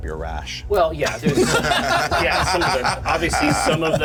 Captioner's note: laughter